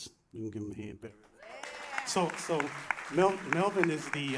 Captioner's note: applause